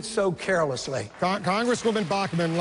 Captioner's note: applause